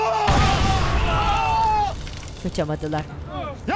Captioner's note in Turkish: Bağırma sesleri; Patlama sesi